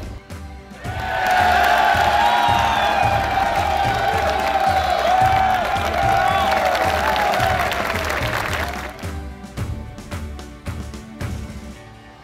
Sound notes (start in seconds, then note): 2.4 enthusiastic applause and cheering